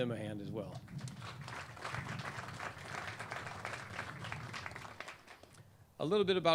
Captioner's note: clapping